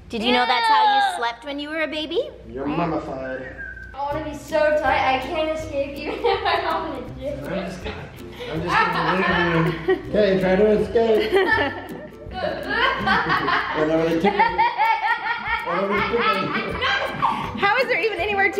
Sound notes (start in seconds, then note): 6.4 laughing; 11.0 laughing